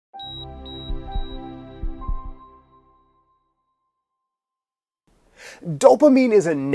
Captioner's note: gentle music; monitor beeping